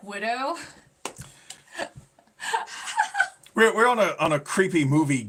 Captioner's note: laughing